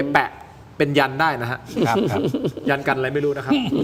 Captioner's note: laughs